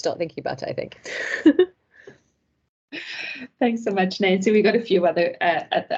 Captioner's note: laughs